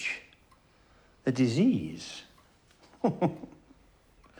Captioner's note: chuckles